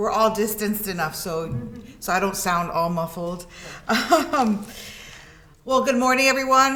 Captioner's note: laughs